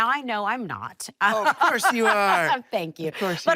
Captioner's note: laughing